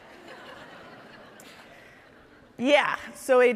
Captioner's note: audience laughing